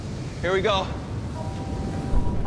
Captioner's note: rumbling